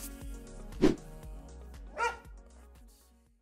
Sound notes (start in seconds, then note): 0.8 whoosh; 1.9 bark